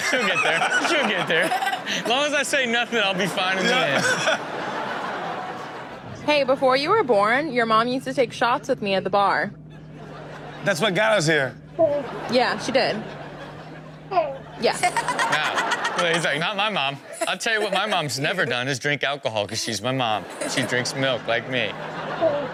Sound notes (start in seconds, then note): 5.0 audience laughs; 14.0 Chanel laughs; 14.1 baby coos